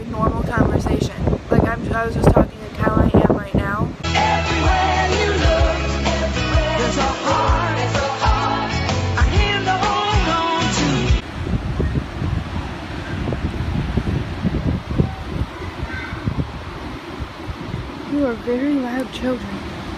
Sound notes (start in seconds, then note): 15.0 kids yelling